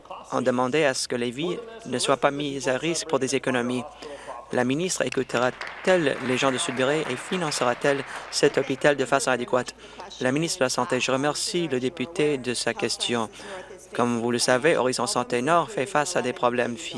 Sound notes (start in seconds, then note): 9.4 applause